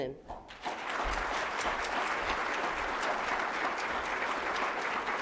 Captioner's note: applause